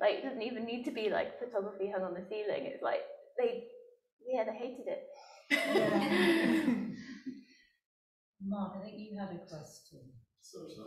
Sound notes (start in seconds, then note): 5.5 laughing